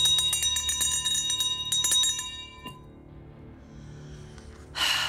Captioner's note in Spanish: Campanilleo